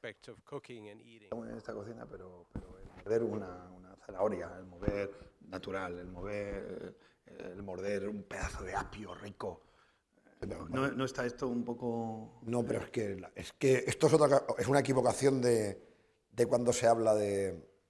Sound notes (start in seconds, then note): 2.6 speaking spanish; 12.9 speaking spanish